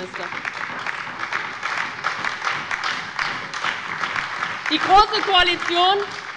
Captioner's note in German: Beifall bei der LINKEN und der SPD